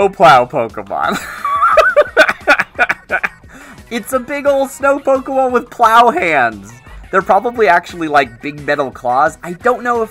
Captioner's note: laughs